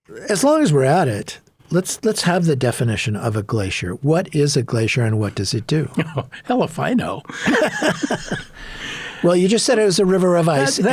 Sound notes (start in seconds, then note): 7.2 laughing; 7.3 both laughing